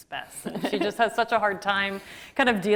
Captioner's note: laughs